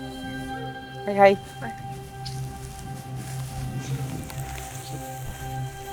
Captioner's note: speaking in Cree